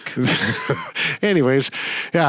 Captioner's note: chuckling